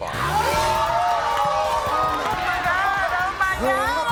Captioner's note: crowd cheering